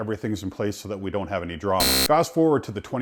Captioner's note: beep